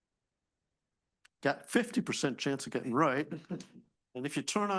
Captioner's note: chuckles